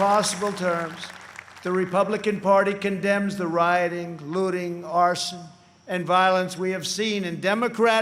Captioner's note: applause